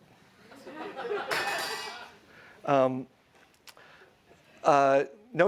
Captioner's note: audience laughs